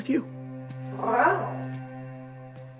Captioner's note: tiger growl